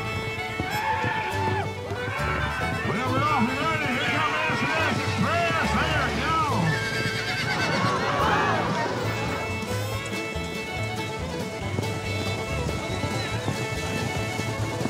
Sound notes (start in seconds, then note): 0.1 hoof beats; 6.6 horse neighs, thud